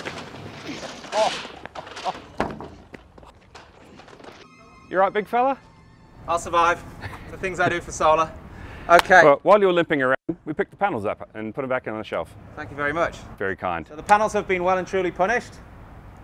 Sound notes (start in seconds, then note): 0.2 laughing